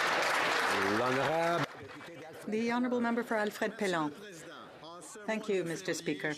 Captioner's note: some Applause